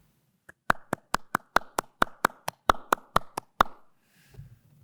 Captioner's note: clapping